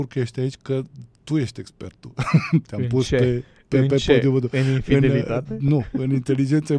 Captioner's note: laughter